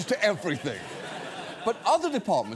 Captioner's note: studio audience laughs